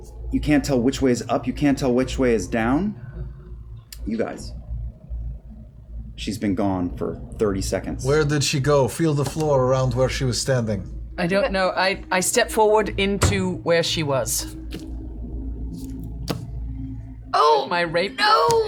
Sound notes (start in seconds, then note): none